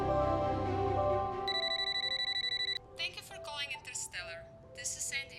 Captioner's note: phone ringing; Andy over phone